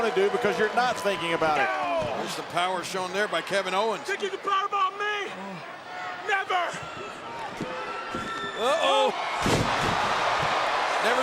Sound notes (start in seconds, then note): 7.0 audience chattering; 9.2 audience cheering; 9.4 body thudding